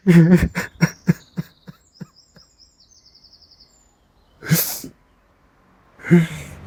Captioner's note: laughing